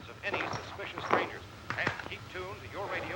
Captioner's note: radio